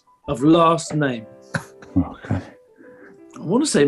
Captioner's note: chuckling